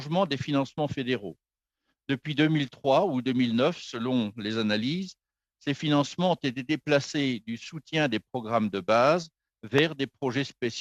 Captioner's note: speaking French